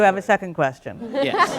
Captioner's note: laughter